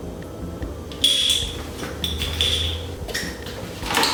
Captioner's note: botte cap noise